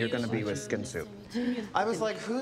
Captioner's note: gasps